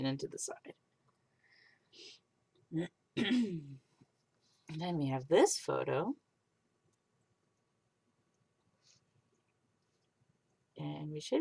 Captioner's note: clears throat